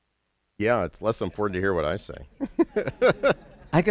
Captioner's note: laughter